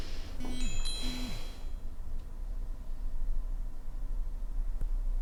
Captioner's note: line ringing